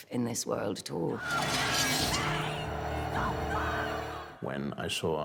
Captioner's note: shouting